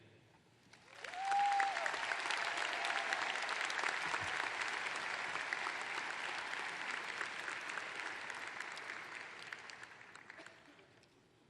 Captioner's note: applause